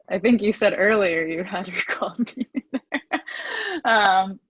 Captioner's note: laughs